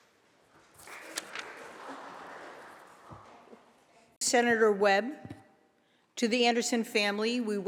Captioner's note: applause